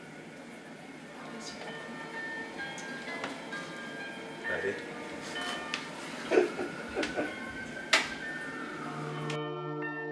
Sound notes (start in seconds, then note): 6.2 laughing